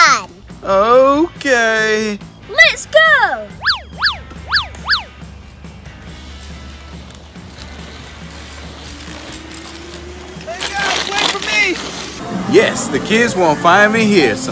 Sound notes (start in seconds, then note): 3.9 upbeat music; 9.6 moped whirring